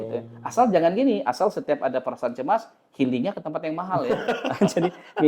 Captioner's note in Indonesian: tertawa